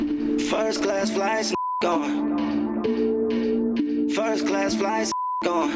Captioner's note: beep; beep